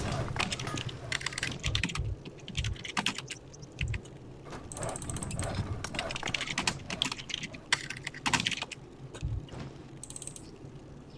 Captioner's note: typing sounds